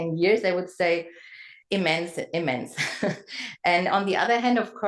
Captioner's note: laugh